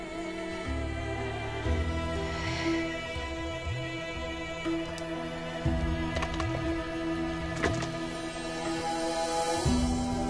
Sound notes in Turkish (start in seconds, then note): 2.1 İç Çekme Sesi